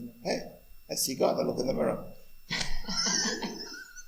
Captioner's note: laughs